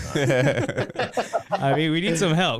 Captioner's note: laughing